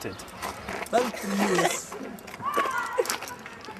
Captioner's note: boys laughing